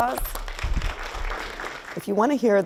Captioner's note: clapping